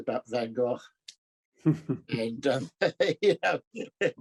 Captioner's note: laughing